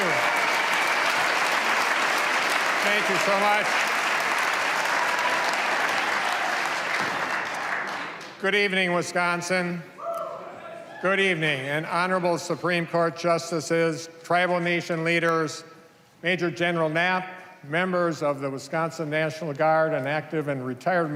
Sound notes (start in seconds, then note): 1.7 cheers and applause